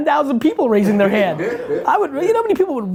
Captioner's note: laughs